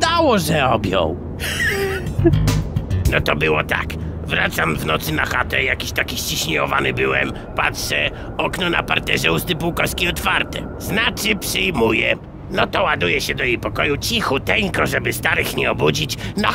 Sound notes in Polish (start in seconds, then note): 1.3 śmiech Rudego